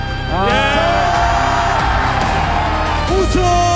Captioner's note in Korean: 환호